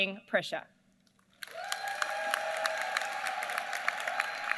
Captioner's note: applause